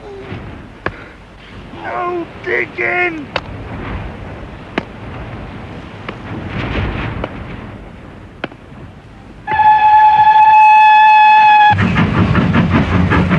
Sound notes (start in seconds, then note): 9.4 train whistles